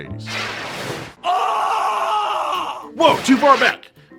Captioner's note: screams